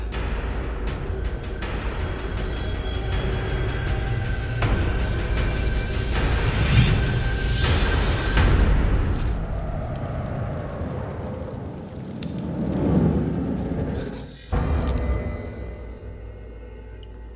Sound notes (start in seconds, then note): 0.2 dramatic music; 6.8 whooshing; 13.0 dramatic music